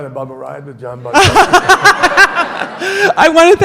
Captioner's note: audience laughs; laughs